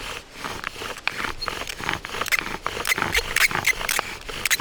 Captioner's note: bow drill makes a smooth grinding noise